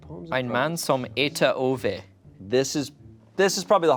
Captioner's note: speaking in a foreign language